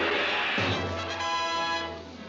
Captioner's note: boom